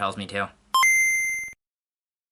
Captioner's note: GameBoy startup sound